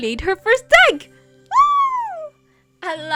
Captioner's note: excited noises